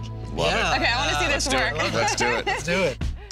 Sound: laughing

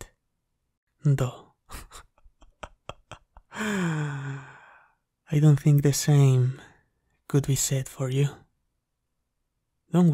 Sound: chuckles

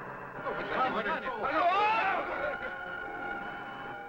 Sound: men shouting

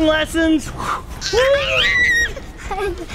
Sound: squeals; laughs

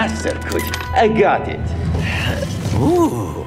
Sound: lock opens

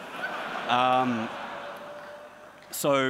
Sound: audience laughs

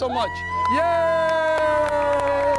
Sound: joyful cheering; loud clapping

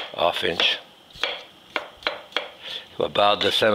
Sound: knife chopping

